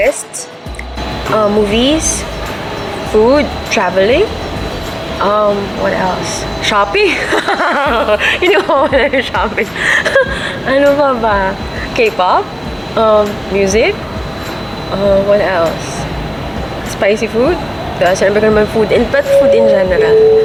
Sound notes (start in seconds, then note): 7.0 laughs